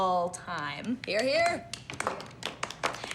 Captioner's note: applause